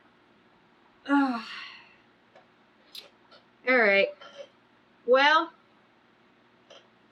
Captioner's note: sighs